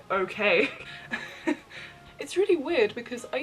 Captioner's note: laughs